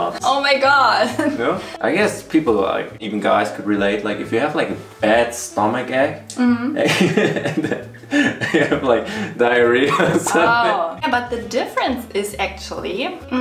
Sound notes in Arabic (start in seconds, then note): 6.8 يضحك